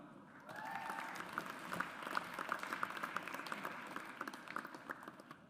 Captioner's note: audience applauds